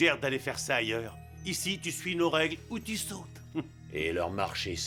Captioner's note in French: rires